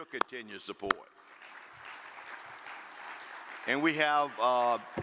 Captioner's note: audience applaud